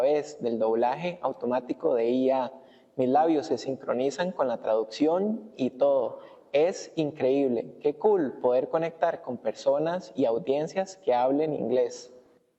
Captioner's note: speaking spanish